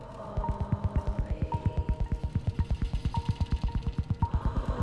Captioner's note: woman whispering